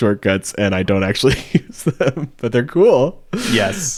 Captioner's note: laughing